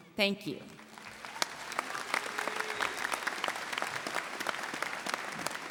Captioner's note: audience applauding